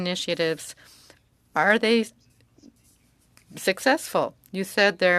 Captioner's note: speaking French